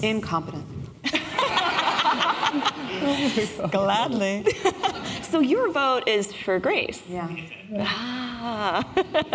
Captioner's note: laughter